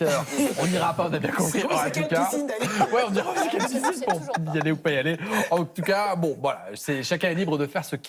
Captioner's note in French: rires